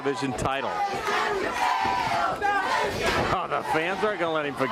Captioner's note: crowd cheering